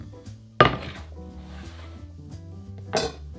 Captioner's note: board sliding